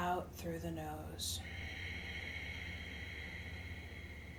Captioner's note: exhales